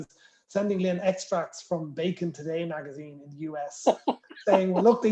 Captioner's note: laughter